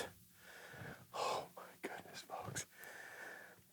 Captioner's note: whispering